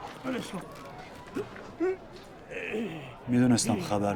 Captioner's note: roar of chatter